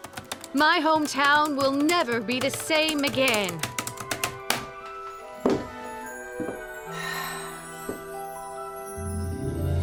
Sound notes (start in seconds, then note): 3.7 typing stops; 6.8 sighs with delight